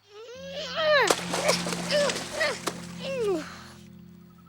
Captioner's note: grunts and splashes